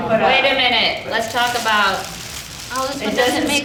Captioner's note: duck rustling